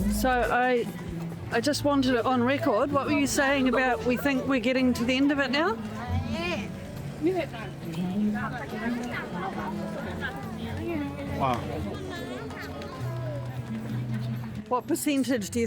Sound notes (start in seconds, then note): 10.2 crowd noise